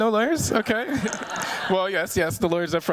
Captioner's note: chuckling